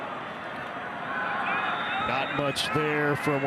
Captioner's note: referee blows whistle